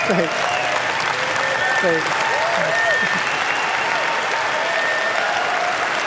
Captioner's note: applause